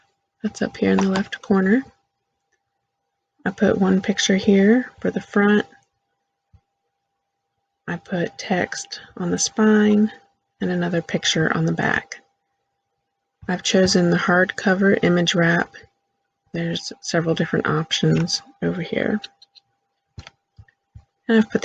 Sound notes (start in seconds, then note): 1.9 click